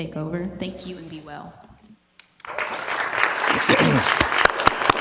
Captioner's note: applause